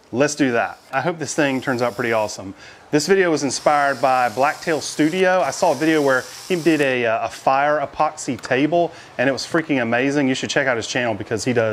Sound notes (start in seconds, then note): 6.5 drill whirring